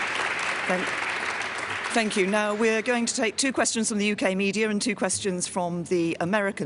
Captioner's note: applause